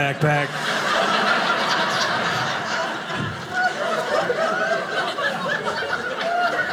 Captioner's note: audience laughing